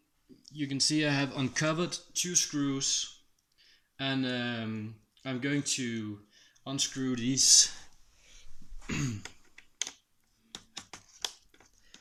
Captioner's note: cough